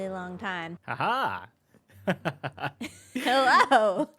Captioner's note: laughs